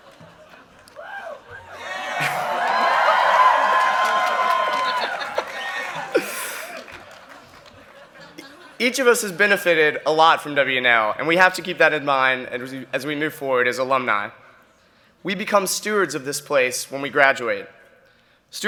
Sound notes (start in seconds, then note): 2.0 cheering and applause; 4.4 chuckles